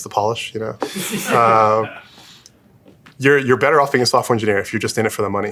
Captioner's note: laugh